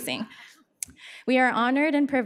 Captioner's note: audience laughs